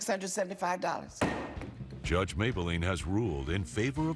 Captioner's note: loud bang